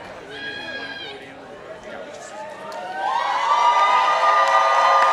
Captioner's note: participants applauding